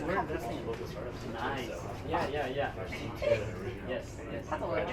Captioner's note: speaking in foreign language